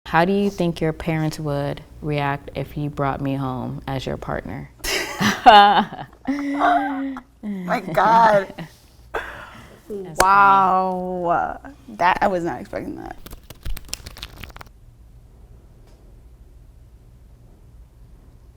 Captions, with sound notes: - How do you think your parents would react if you brought me home as your partner? (laughing) - My god, wow. - That's funny. I was not expecting that. (cards flapping)